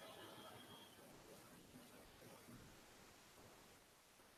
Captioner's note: ghostlike sound, but mostly silence